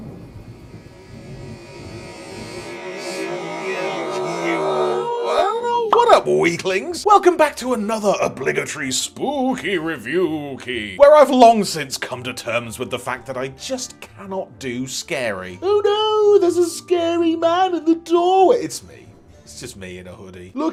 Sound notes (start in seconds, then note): 0.1 spooky digital echo